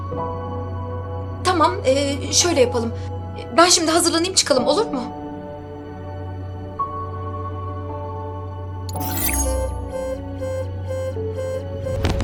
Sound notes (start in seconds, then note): 2.7 worried; 8.9 alert sound